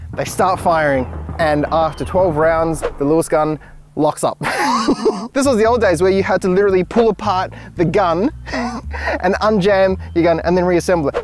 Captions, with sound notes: They start firing And after 12 rounds The Lewis Gun Locks up *Wheezing Laughter like an asthmatic without a puffer* This was the old days where you had to literally pull apart The gun *More wheezes* And unjam Your gun and then reassemble it